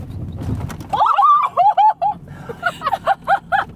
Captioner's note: a woman's scream